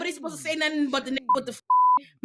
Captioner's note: beep